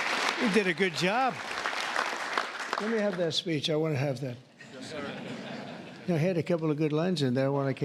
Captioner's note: applause